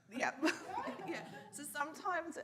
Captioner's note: laughs